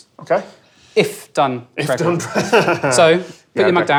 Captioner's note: chuckles